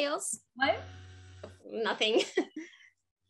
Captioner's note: laughing uncomfortably